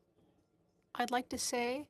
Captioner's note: speaking in French